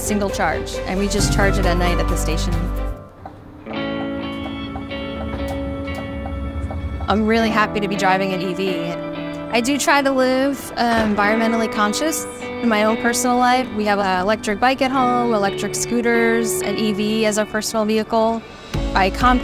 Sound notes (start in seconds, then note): 3.9 gentle upbeat music; 4.0 turn signal ticking